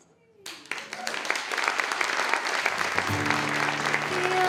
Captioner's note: audience clapping